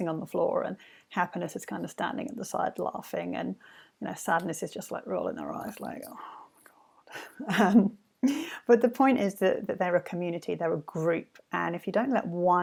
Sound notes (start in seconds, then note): 7.4 laughs